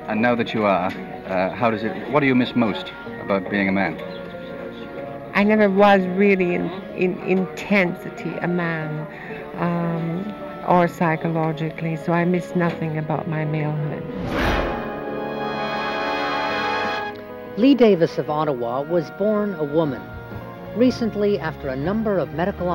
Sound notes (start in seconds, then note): 15.5 whoosh; 16.5 theme music